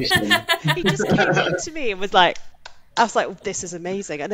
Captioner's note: claps